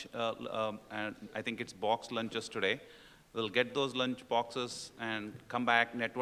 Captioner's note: none